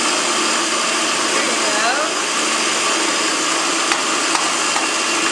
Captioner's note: loud food processor noise